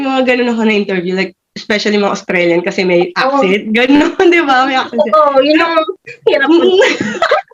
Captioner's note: both laughed